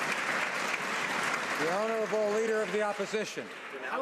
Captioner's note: some Applause